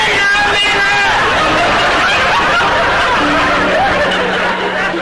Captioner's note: audience laughter